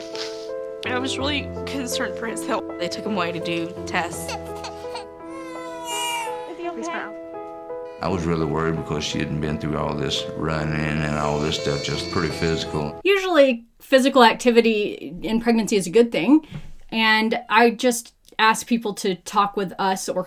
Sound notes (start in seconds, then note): 0.0 somber piano; 4.1 baby cries